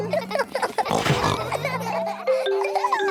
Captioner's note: all laughing; giggles, snorts